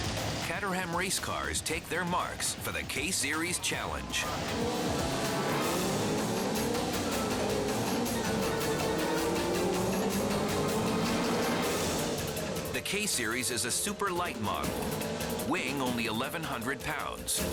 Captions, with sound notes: Caterham race cars take their marks for the K-Series Challenge. (engines revving) (suspenseful music) The K-Series is a super light model weighing only 1,100 pounds.